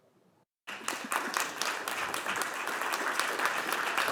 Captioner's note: Aplodeja